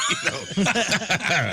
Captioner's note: laughing